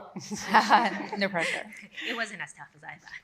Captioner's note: everyone laughs